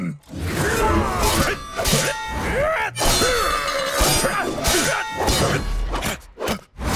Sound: grunting; grunting

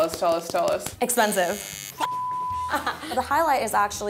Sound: beep

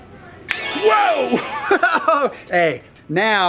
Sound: laughs

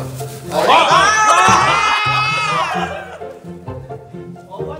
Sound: people exclaimed

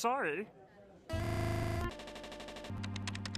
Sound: buzzing

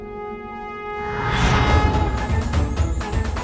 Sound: conch blows

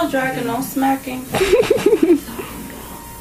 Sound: laughs

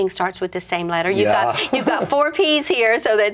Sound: laughs

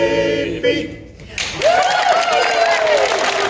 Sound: applause

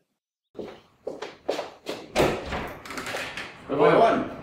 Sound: footsteps, door opens

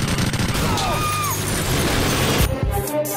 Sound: glass shatters, female pedestrian screams

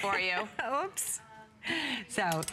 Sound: laughter

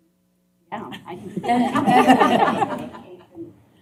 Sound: laughter

